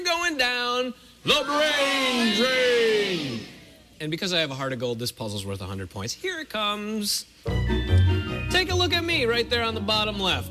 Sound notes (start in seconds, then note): none